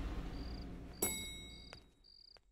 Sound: elevator dings

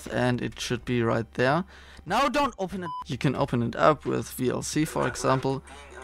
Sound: beeping

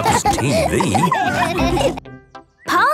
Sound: all laughing

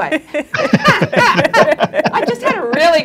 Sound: panelists laughing

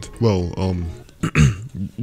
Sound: cough

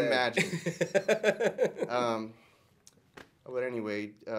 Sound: laughter

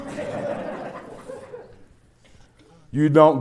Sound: laughter

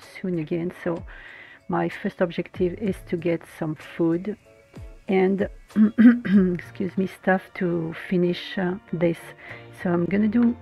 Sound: caughs

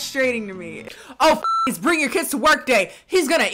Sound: beep

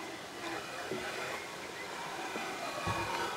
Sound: birds chirping

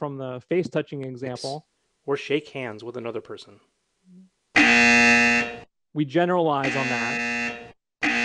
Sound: buzzer sounds as he touches face

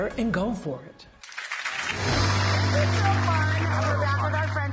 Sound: audience cheers

